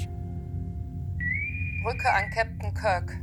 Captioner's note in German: Interkomm pfeift